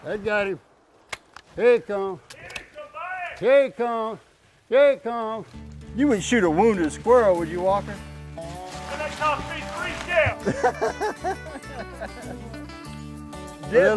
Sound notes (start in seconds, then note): 2.8 shouting; 10.3 laughing